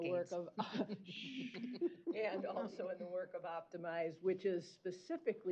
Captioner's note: chuckle